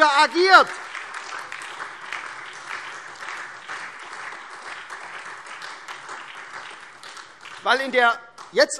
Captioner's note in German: Beifall SPD und vereinzelt AfD